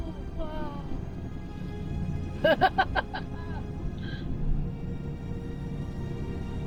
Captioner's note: laughter